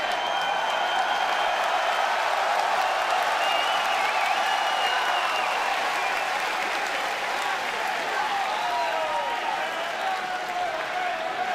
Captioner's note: cheers and applause